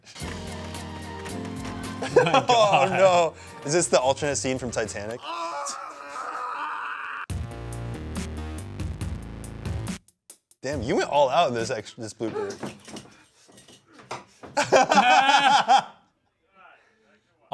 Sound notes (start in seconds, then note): 0.0 dramatic upbeat music; 5.2 screaming; 7.3 upbeat music; 14.5 laugh